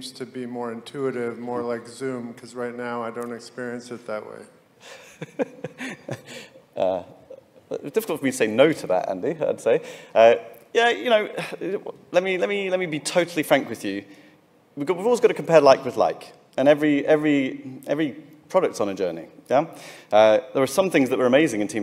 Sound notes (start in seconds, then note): 4.8 laughing